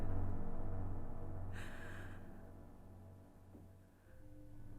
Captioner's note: Tina gasps